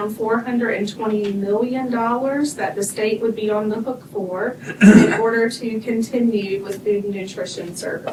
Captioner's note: clears throat